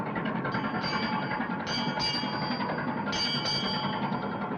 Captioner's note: bell ringing